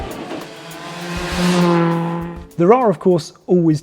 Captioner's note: engine rasping